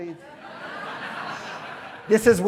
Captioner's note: laughter